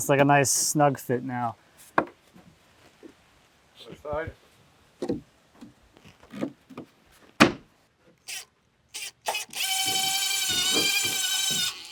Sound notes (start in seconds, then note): 7.4 fist pounding; 8.9 drill whirring